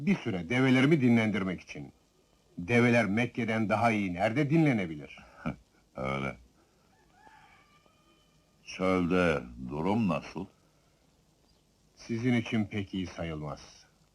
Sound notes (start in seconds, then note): 6.7 rooster crowing